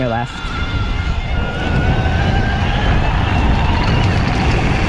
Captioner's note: bicycle motor roars